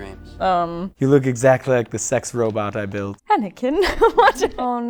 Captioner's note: laughter